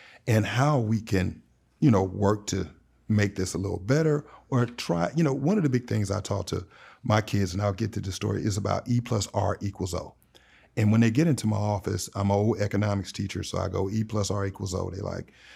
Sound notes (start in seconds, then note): none